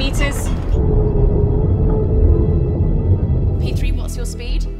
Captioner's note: submersible droning